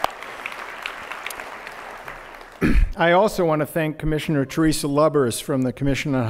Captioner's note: applause